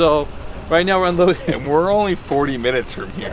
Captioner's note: laughing